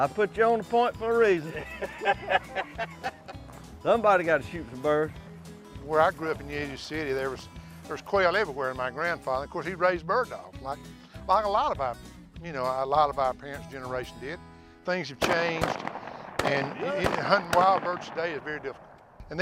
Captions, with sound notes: I put you on a point for a reason. (laughs loudly) Somebody's got to shoot the birds. - Where I grew up in Union City, there's quail everywhere, and my grandfather, of course he raised bird dogs like a lot of our parents' generation did. Things have changed, and huntin' wild birds today is very different.